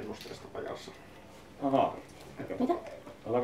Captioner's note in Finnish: puheensorinaa, torikauppias kailottaa myyntipuhetta